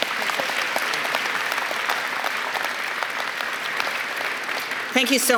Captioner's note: applause